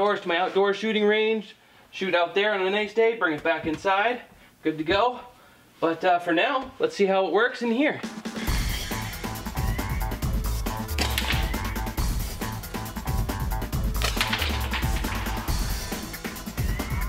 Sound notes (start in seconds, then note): 8.5 upbeat music; 11.0 thwack; 14.0 thwack